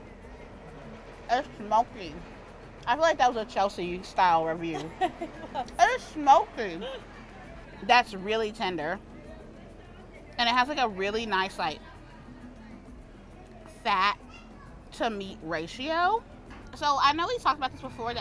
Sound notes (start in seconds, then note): 4.6 laughs